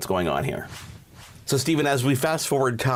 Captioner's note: air whooshing